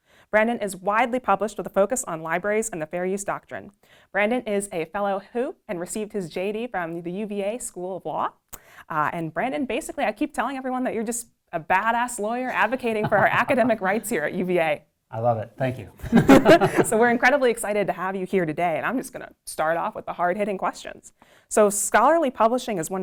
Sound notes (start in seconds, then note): 12.4 laughs; 16.0 laughs